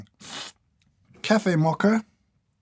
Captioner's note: slurp